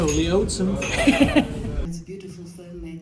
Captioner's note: laughing